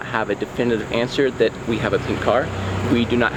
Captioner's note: car revving